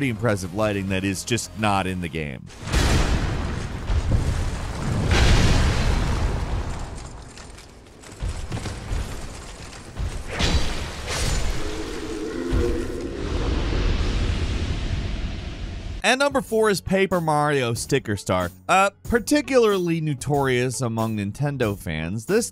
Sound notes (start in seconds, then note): 2.6 tiles exploding; 10.2 weapon clanging; 11.4 beast growling